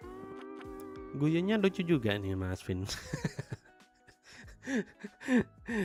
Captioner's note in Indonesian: tertawa